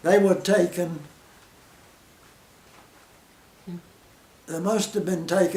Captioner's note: silence